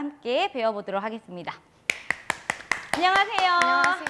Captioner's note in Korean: 박수